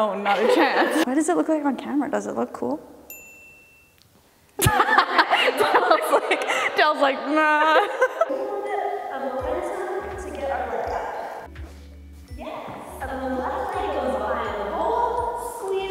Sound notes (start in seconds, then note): 0.7 laughing; 3.0 bell dinging; 4.6 laughing; 8.2 laughing